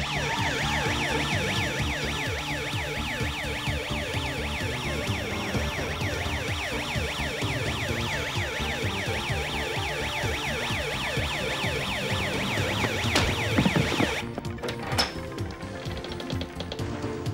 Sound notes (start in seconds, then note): 0.3 sirens blaring; 12.3 hits and thuds